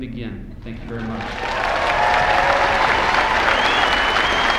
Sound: applause

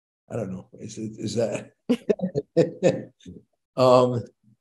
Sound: chuckles

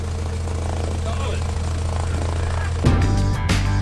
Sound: plane Engine Noise

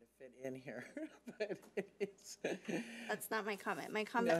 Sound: laughs

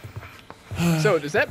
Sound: sighs

